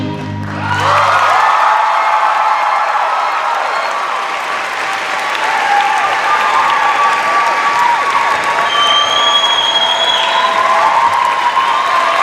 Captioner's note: cheers and applause